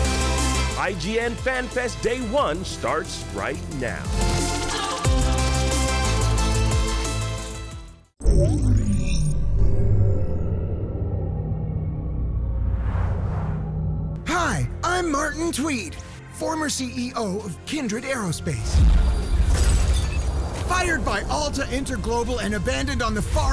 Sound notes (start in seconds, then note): 4.7 upbeat music playing; 8.2 dramatic intro sound